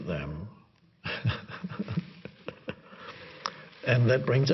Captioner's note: he laughs